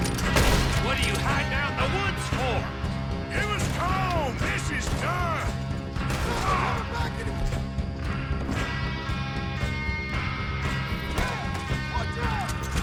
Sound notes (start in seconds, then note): none